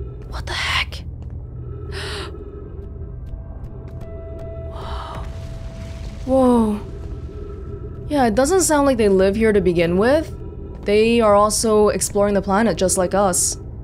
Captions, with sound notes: What the heck? *whisper* Whoa! Whoa. Yeah, it doesn't sound like they live here to begin with; they are also exploring the planet just like us.